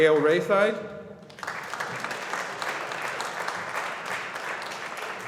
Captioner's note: audience applauding